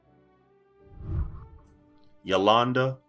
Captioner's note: whooshing